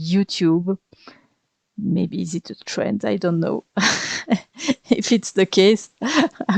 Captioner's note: laugh